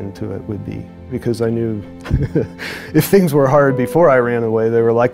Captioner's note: chuckles